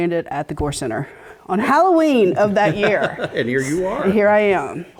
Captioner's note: laugh